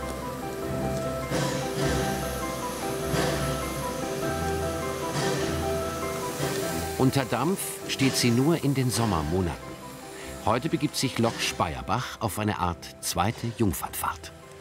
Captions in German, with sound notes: (Zischen) Unter Dampf steht sie nur in den Sommermonaten. Heute begibt sich Lok Speyerbach auf eine Art zweite Jungfernfahrt.